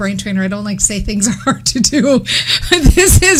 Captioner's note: laughs